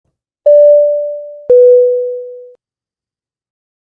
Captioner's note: beep